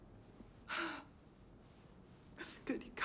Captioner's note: samantha sobbing